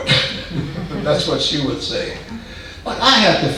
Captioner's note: man laughing